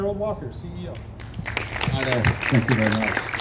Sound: crowd claps

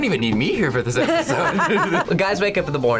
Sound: both laugh

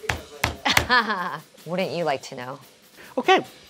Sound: laughing

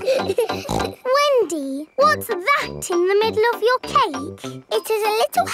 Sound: snorts

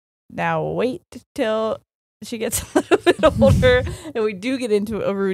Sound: laughs

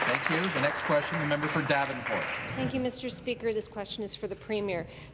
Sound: applause

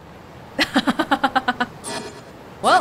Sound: chuckles

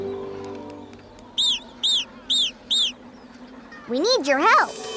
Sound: squawking

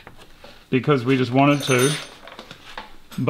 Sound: tools clatter

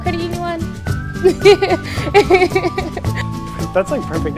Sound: laughs

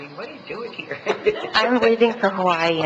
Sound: laughing

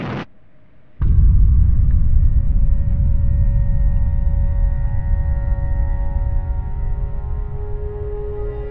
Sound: distant explosion

